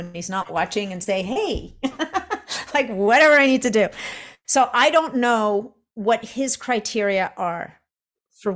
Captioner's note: chuckles